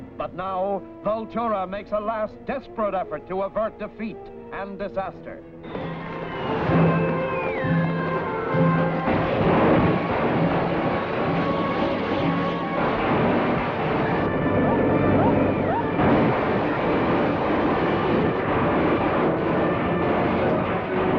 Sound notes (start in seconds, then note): 5.7 static crackling; 9.2 panel exploding; 9.2 suspenseful music